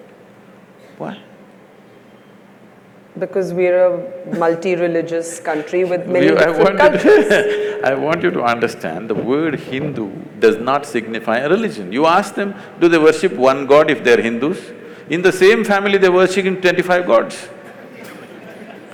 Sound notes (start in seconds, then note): 2.9 Sadhguru laughs; 5.4 laughs; 17.7 laughter